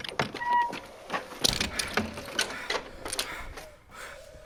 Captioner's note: creaking door